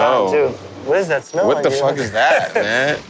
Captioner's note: laughs